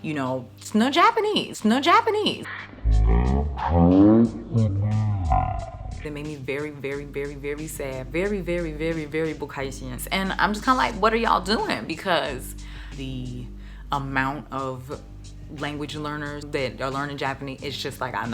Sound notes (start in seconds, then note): 2.5 groaning; 9.1 speaking in foreign language